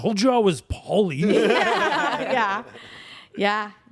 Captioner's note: everyone laughs